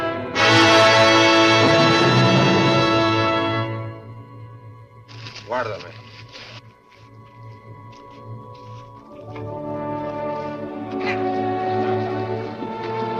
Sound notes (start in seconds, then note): 5.1 speaks Spanish; 9.3 peaceful orchestral music